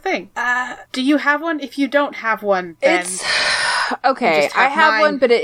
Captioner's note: sighs